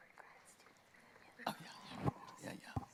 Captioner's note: whispering